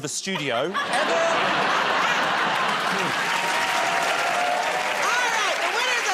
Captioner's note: cheers and applause